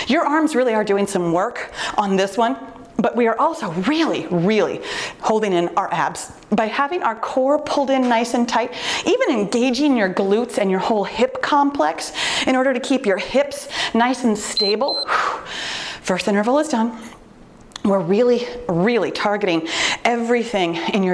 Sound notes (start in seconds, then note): 14.5 timer beeps